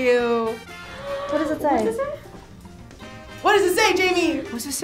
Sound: gasps

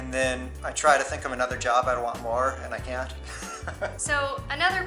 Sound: laughter

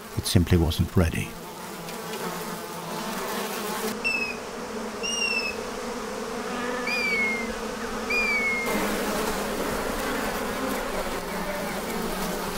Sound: bees buzzing

